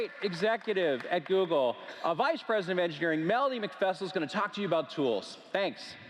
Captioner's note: cheers & Applause